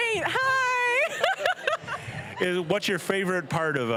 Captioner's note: laughing